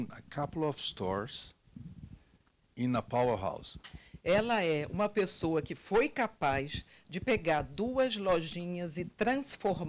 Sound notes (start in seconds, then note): 4.4 translator speaking Portuguese